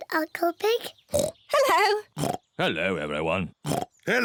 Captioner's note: oinks